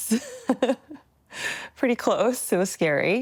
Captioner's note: laughs